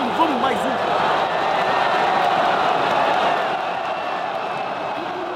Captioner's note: crowd shouting